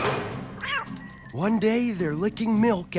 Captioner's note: cat meows, bell tinkles